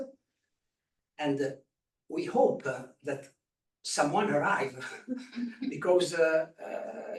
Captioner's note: chuckles